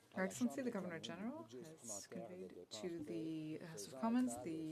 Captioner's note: speaking French